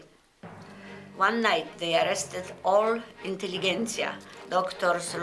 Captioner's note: speaks in foreign language